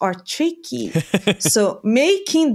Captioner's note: laughs